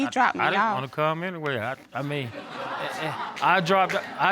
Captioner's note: audience laughing